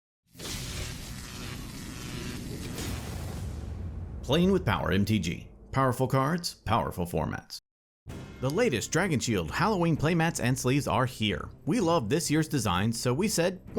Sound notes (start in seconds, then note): 0.3 screen zapping